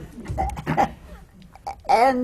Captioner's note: laughter